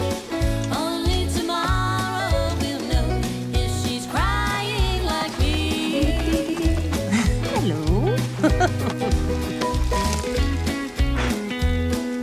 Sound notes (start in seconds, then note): 8.6 laughs